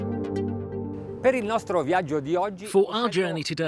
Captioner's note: speaks in foreign language